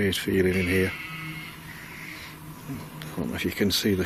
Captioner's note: sheep bleating